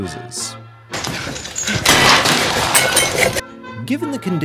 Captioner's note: glass breaks